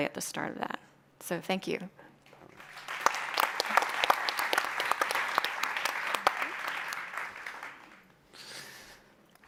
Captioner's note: applause